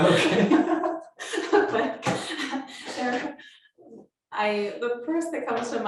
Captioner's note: laughing